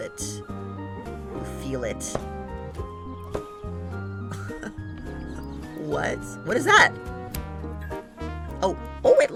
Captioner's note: laughs